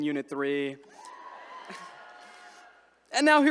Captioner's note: attendees cheering